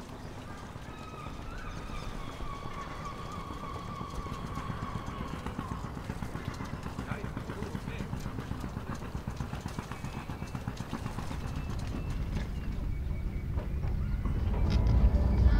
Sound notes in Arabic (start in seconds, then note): 1.8 صرير طائر النورس; 4.5 دوران محرك القارب